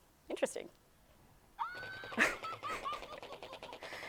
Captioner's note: Elmo laughing hysterically